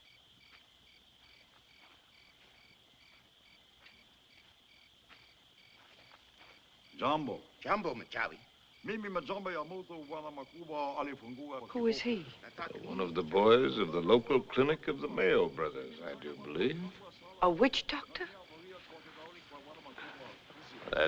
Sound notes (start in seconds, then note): 7.1 speaking African Language